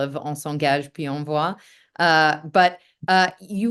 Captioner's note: speaking french